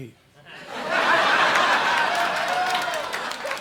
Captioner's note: audience laughing